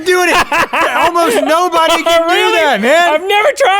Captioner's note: laughs